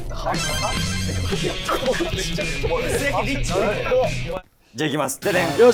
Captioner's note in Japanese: 一同：ざわざわ